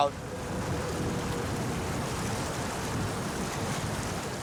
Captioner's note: water splashes